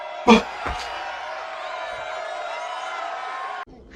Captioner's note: louder cheering; mild gasp